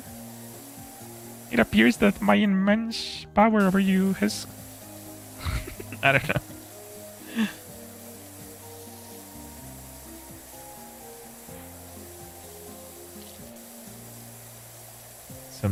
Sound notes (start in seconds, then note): 8.3 snorts